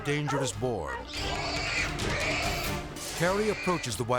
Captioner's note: boar squealing